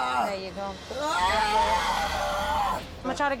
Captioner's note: yelling